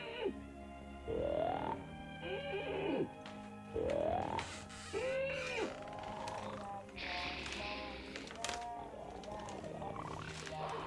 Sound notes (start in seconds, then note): 3.6 wood creaking